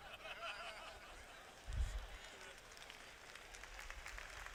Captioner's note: laughter